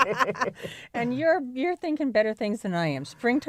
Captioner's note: laughter